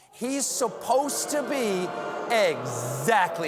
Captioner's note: booing